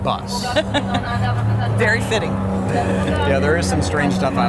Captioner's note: laughing